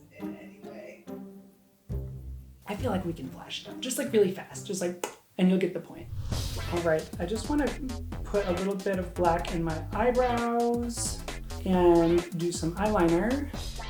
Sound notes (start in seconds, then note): 5.1 popping; 6.0 whooshing